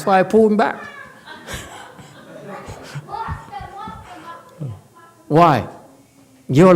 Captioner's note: laughs, audience laughs